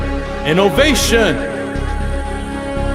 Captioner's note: echos